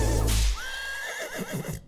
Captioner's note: horse neighs